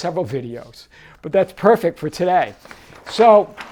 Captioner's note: page turning